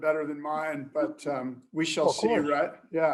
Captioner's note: laughter